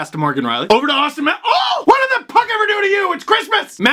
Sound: shrieks

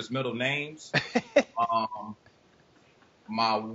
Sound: laughing

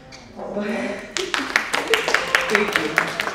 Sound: audience applauding

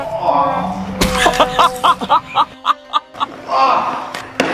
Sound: laughing

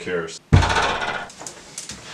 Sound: door smashing

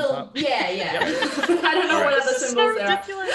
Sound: laugh

